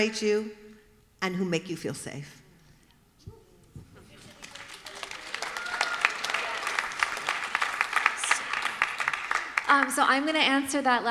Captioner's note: applause